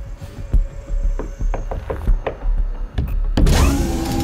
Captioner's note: knocks softly